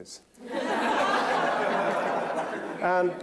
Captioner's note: laughter